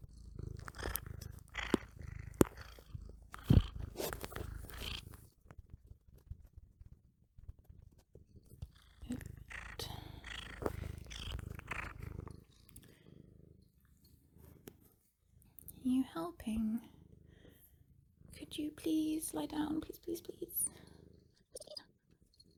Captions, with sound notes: [Loud purring, nose bumps, and snuffles ASMR style] [More ASMR cat noises] Are you helping? Could you please lie down? Please please please?